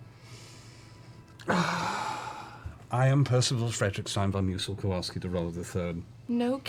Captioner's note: sighs